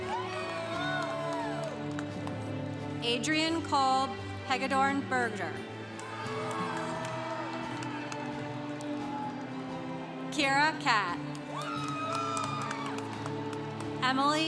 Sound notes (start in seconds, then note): 0.0 congregation cheering; 5.8 congregation cheering; 11.4 congregation cheering